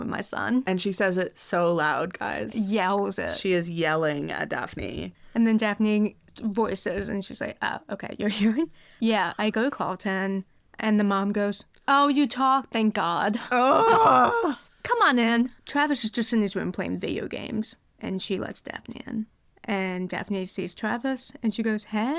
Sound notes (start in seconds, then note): 13.4 groans